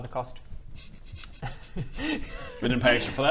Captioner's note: suppressed giggles